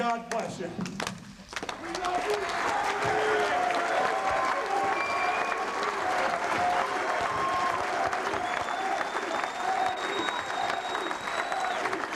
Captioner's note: applause